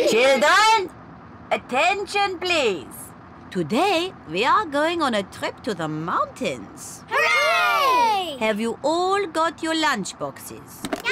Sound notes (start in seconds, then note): none